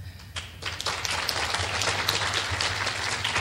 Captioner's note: clapping